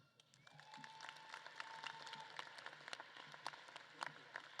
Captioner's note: audience claps and cheers